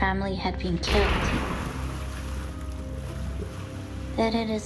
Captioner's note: gun firing